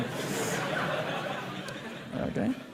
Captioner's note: laughter